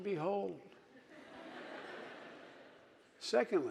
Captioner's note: audience laughing